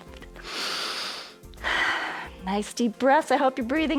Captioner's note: inhales and exhales